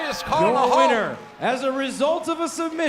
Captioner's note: crowd cheering